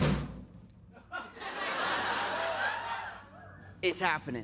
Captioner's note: drumroll; laughter